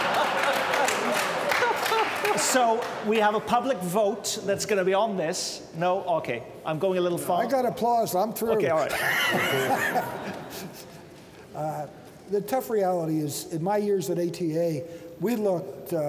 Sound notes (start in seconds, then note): 5.5 applause; 8.8 laughter